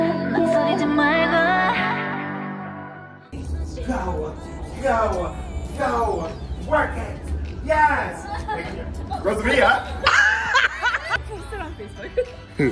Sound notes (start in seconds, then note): 10.0 cackling